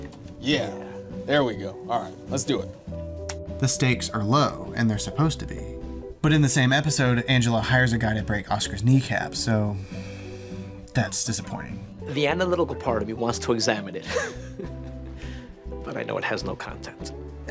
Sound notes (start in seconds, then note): 9.8 sighs; 14.0 laughs